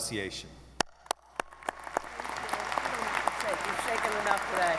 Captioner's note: audience applauding